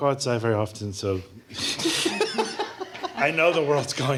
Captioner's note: laughter